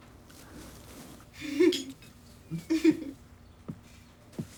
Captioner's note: both giggling